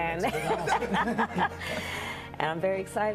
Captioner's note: laughing